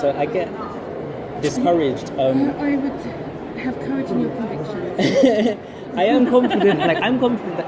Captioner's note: both laugh